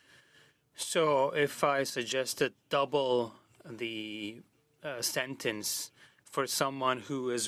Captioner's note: speaking French